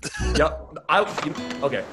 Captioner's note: laughs